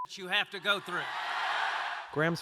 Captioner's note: cheering and applause